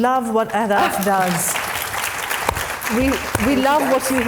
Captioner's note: audience applauding